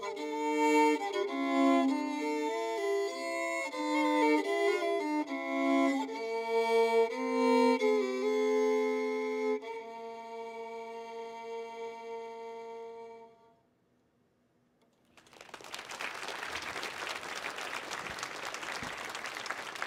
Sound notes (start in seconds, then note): 5.7 gentle music continues; 15.0 audience applauding